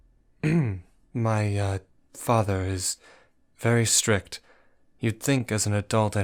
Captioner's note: clears throat